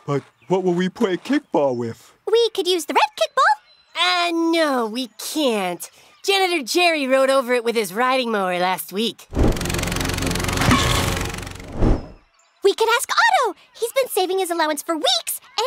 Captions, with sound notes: -But, what will we play kickball with? -We could use the red kickball. -Uh, no, we can't. Janitor Jerry rode over it with his riding mower last week. [SPLAT] -We can ask Otto he's been saving his allowance for weeks,